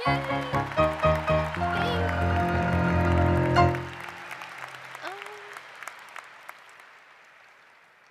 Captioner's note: applause